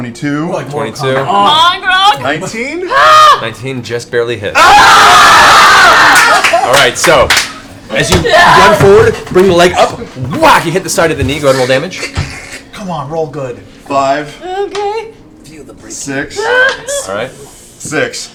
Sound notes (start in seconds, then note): 4.5 cheering; 9.3 whack